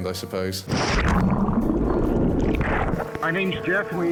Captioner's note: water burbling